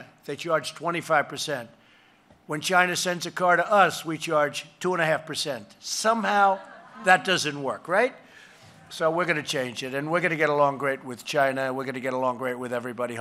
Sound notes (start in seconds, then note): 6.2 laughter